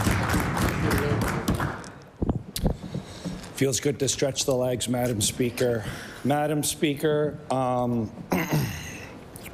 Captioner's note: cheering/Applause